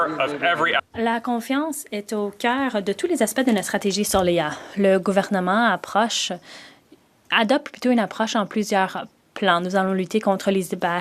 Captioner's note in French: voix de l'interprète